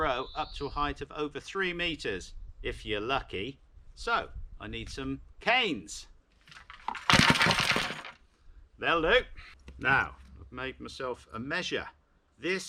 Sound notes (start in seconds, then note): 6.5 loud clatter as canes fall